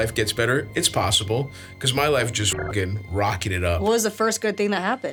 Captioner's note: beeps